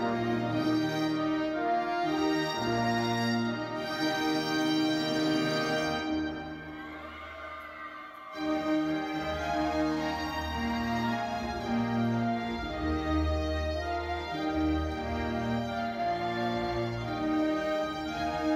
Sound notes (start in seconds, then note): 6.5 audience cheering; 8.7 audience cheering continues; 8.7 ceremonious music